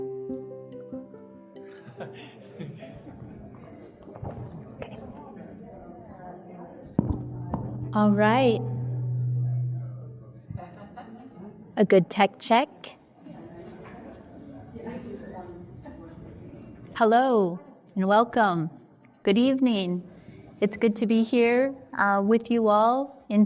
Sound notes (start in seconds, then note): 7.0 music fades out; 9.8 microphone echos